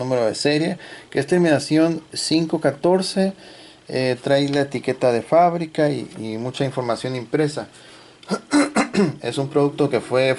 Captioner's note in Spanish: carraspeo